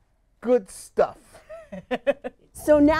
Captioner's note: laughs